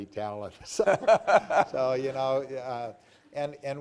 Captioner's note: laughter